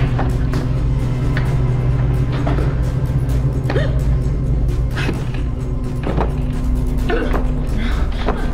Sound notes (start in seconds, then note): 4.0 Ruth gasping